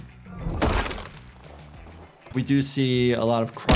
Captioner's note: bones crunch